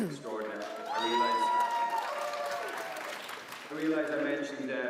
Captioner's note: applause